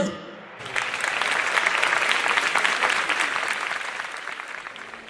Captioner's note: applause